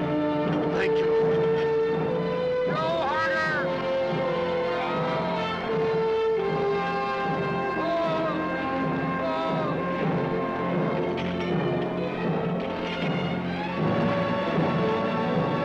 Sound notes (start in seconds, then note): 5.0 men shout; 11.8 dramatic suspenseful music